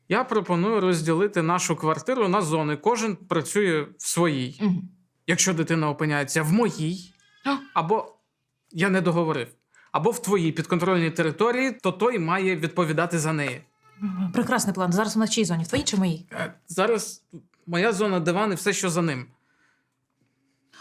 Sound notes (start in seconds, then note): 7.4 Poе crying